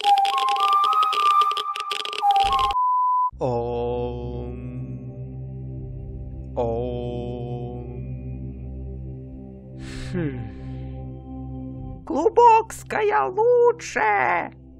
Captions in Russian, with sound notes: Ооом... Ооом... *Вздох* Глубокская лучше!